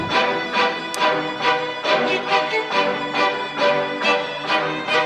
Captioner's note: upbeat music; clapperboard claps